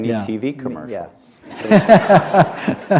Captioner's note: laughter